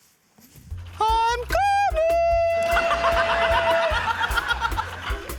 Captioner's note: laughs